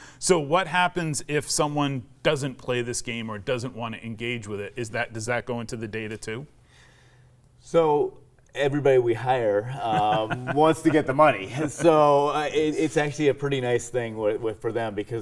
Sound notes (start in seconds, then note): 9.7 laughs